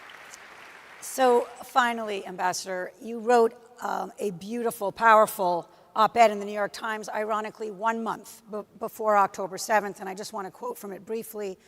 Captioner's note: applause